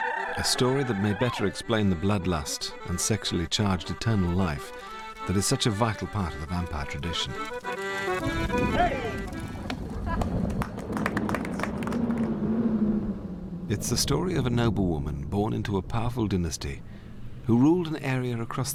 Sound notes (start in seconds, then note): 10.2 applause as music ends; 10.2 ominous wind picks up